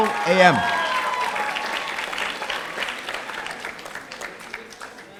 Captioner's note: audience applauding